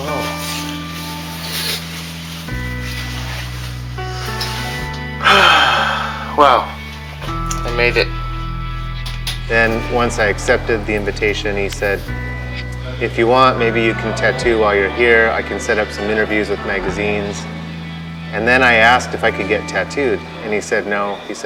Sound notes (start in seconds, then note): 5.2 sighs